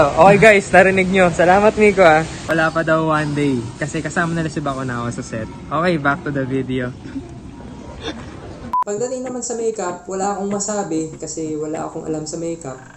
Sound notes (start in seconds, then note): 7.0 snickers